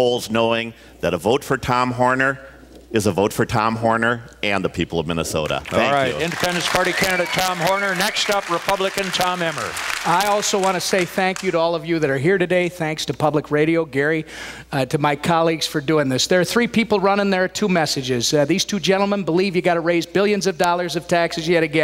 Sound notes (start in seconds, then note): 5.6 applause, cheers; 10.1 applause